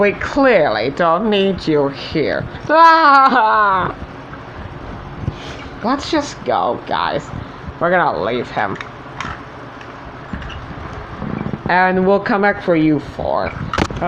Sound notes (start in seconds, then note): 10.2 tires Rolling And Squeaking